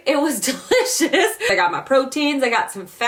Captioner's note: laughing